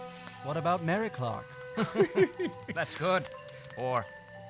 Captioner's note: laughs